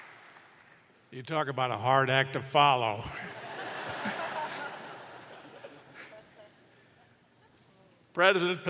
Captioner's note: laughter